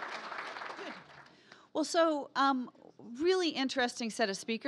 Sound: applause

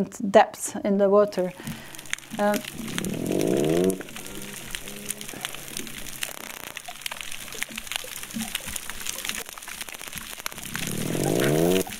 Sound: statice sound and groans -- clicks repeated -- and groans

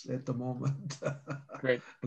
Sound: chuckling

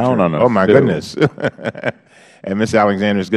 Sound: laughter

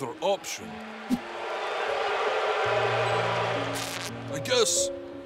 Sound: intimidating TV noise

